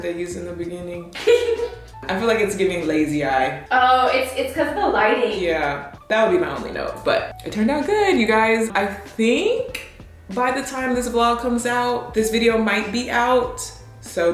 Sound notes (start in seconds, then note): 1.1 giggles